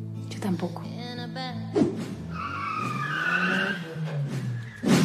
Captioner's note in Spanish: Sonido patinazo coche